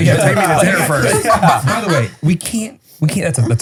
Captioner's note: all laughing